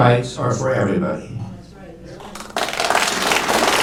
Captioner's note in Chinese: 掌声